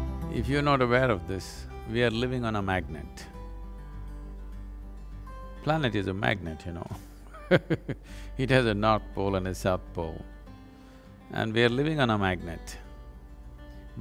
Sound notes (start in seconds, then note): 7.3 laughs